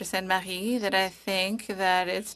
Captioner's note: speaking French